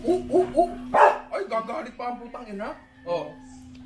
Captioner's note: barks